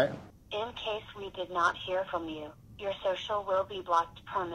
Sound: automated Voice

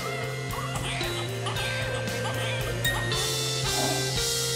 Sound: upbeat music; baby crying

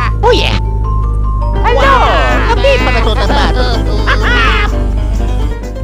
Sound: italian gibberish; crying

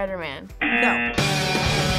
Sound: buzzer rings; rock music; buzzer

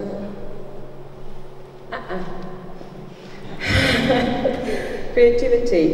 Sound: laughs

